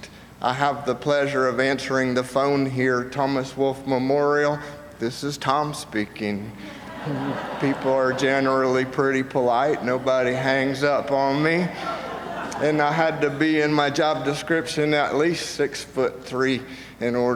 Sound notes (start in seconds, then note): 6.6 audience laughs